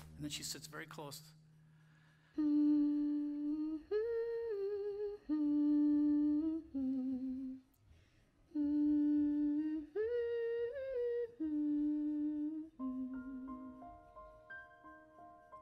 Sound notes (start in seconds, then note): 2.2 humming